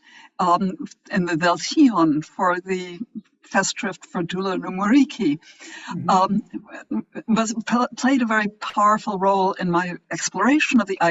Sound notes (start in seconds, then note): 1.8 speaks foreign language